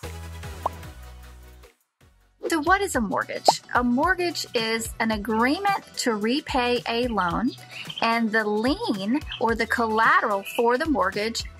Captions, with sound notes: (text popping) - So what is a mortgage? A mortgage is an agreement to repay a loan and the lien or the collateral for the mortgage